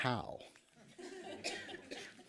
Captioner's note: laughter